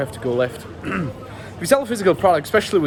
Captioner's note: clears throat